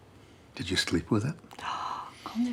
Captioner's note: Grace gasps